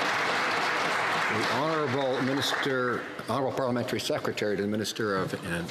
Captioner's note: some Applause